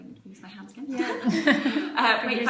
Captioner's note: laughing